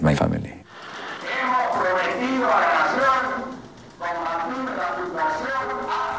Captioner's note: speaking Spanish